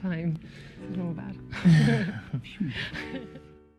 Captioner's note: laughing